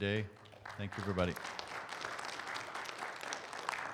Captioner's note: audience applauds